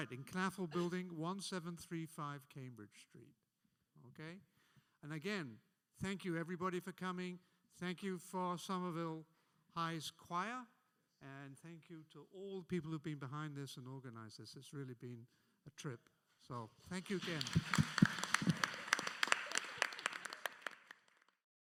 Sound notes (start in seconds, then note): 16.9 audience applauding